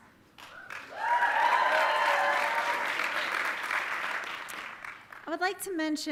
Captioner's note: audience cheering and applauding